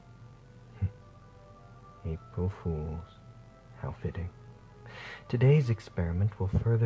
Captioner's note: chuckles